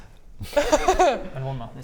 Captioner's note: anti-math giggle